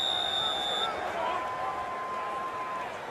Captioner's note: whistle blowing